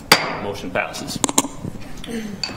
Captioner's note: gavel striking sound block